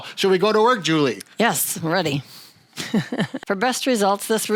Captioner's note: laughs